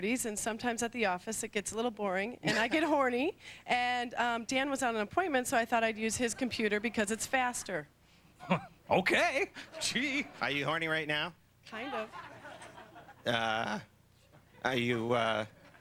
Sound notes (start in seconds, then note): 8.4 chuckles